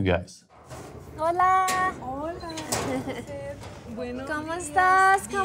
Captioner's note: speaking in foreign language